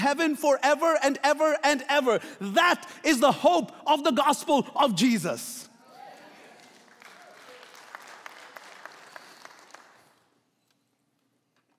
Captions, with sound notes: forever and ever, and ever. That is the hope of the gospel of Jesus. - Woo. (applauding)